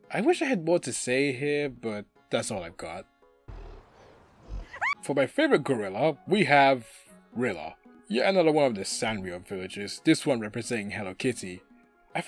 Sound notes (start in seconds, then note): 3.5 grunting noises; 4.4 scream